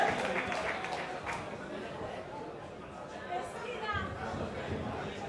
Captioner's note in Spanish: Bullicio